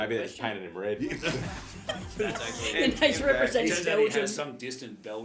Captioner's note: laughing